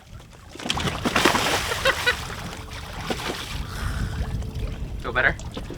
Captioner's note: water splashing; laughs